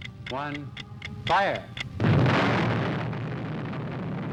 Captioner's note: thunderous explosion